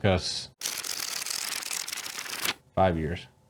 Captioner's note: pages scrolling